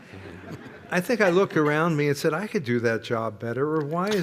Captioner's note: laughter